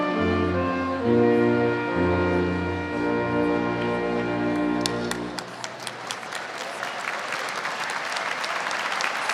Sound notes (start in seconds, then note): 4.5 audience applauds